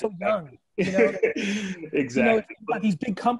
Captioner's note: laughing